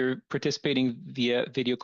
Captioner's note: speaking French